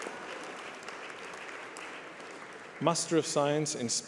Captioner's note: applause